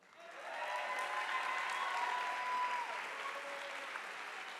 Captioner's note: audience applauding